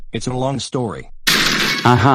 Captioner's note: door break